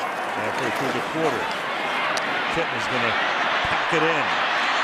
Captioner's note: pa announcement